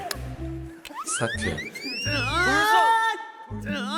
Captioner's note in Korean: 으아아아아아아